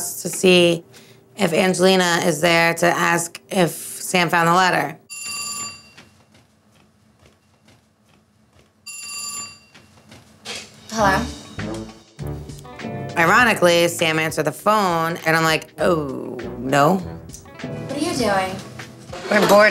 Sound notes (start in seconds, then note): 5.1 phone ringing; 9.1 footsteps